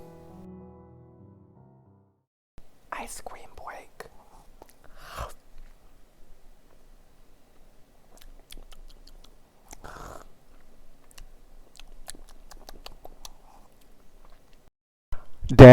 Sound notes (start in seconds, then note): 8.0 ice cream eating noises